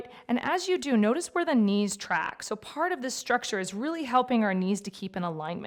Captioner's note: none